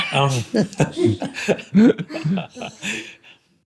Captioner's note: laughter